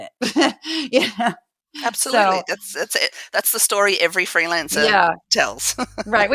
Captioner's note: laugh; laugh